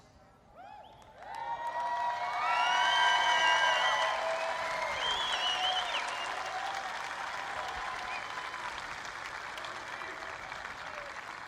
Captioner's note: applause